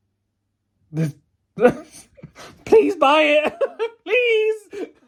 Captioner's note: laughs